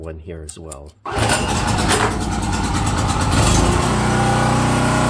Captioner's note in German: Maschine brüllt